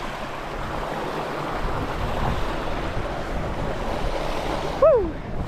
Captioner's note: water rushing